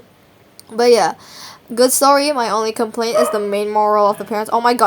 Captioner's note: woof